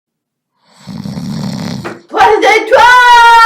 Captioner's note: snoring